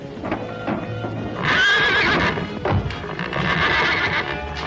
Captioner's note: horse neighing